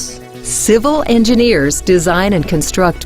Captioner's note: voiceover